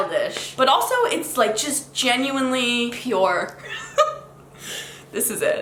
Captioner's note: laughs